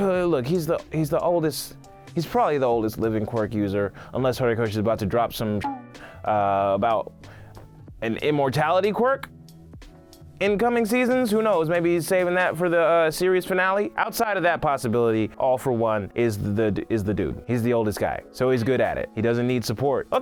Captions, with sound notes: Look, he's probably the oldest living quirk user, unless Horikoshi is about to drop some (beep) about an immortality quirk in coming seasons? Who knows, maybe he's saving that for the series finale. Outside of that possibility, All for One is the dude. He's the oldest guy, so he's good at it. He doesn't need support.